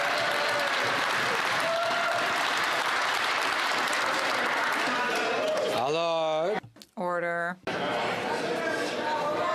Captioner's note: some Applause